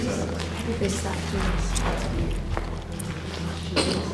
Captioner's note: chatter